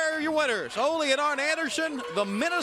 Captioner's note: bell ringing